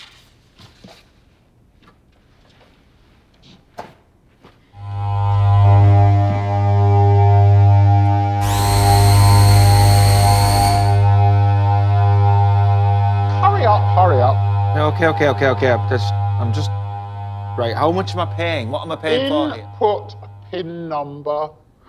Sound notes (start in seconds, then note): 0.0 paper rustling; 3.8 hands smacking; 5.0 discordant music; 8.5 machine buzzing